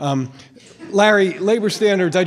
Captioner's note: light laughter